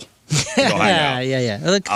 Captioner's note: laughing